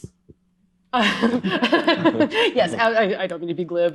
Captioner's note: laughter